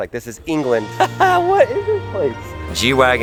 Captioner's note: chuckles